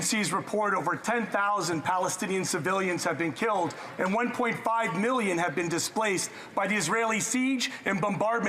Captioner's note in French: voix de l'interprète